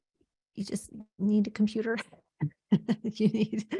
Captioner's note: chuckles